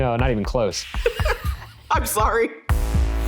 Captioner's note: laughing